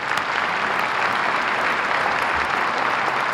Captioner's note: applause